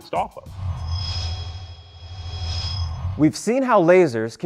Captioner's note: sound Effects